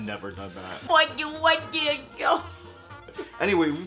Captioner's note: mimics baby talk